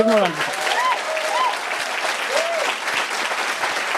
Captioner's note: cheering and applause